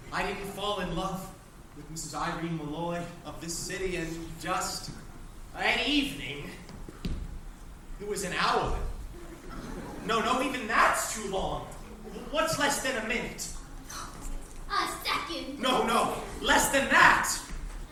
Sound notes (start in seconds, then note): 14.4 gasps